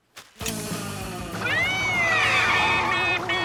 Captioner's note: imitating siren